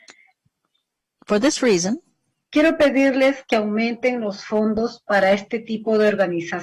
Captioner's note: speaking spanish